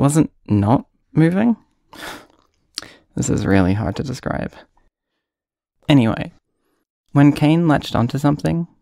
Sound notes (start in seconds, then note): 1.9 sigh